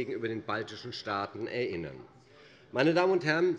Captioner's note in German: none